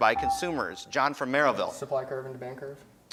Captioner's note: beeping